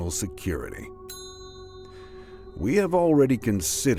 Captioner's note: bell rings